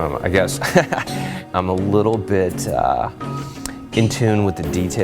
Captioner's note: laughs